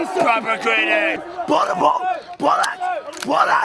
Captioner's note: shouts